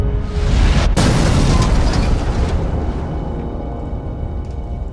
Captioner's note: car exploding